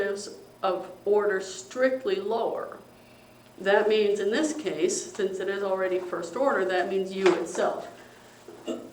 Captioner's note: cough